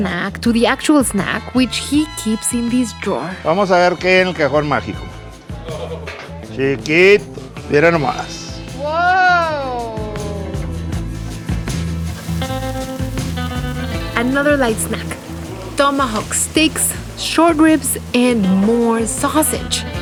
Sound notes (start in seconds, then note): 12.0 sizzling